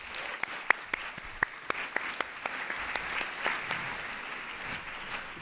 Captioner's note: audience applauds